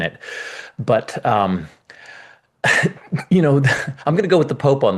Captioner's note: chuckles